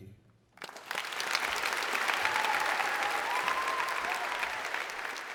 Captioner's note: audience applauds